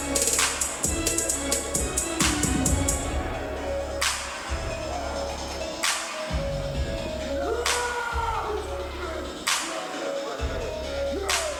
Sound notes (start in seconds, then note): 7.3 wrestlers shouting